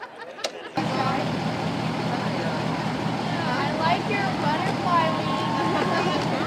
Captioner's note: engine noise